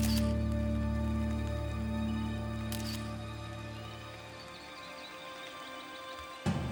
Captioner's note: suspenseful music; camera shutter clicking